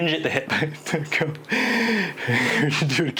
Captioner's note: laughter